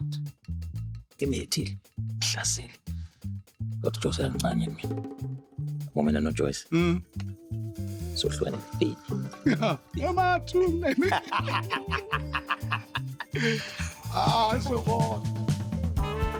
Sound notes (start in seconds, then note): 1.1 laughing